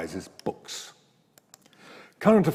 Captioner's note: mouse clicks